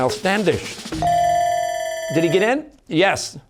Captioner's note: ringer dings, bell ringing